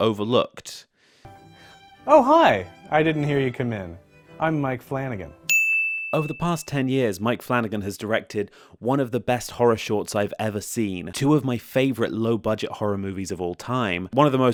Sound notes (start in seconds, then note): 5.5 ding